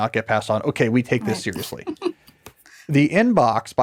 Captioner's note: laughs